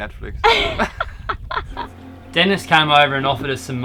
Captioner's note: both laughing